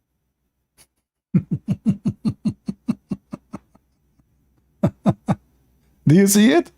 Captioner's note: Ketawa